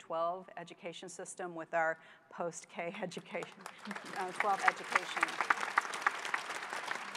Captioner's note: applause